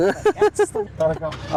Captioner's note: laughter